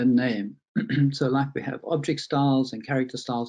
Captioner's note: clears throat